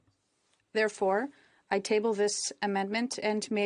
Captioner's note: speaking in French